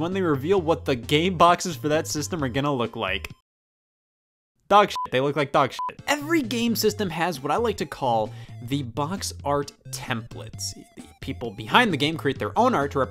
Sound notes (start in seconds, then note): 5.7 beep